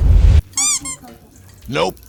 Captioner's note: toy squeaking